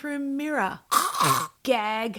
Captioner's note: gagging sounds